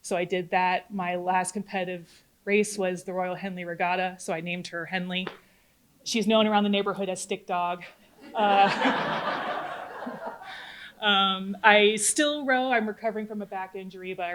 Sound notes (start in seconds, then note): 8.2 audience laughing